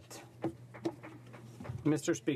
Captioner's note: speaking in french